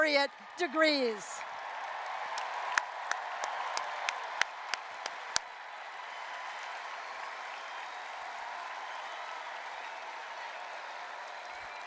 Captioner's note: applause, cheering